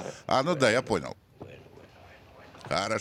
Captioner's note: Villa speaking Spanish